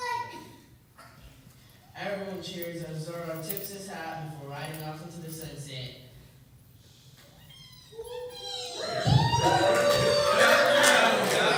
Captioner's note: cheers